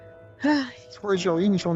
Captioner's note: sigh